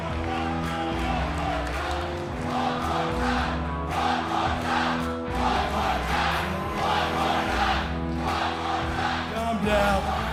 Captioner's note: crowd cheering